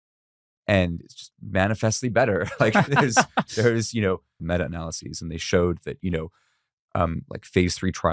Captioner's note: laughs